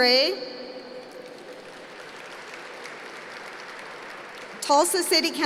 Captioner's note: applause